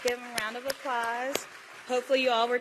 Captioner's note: applause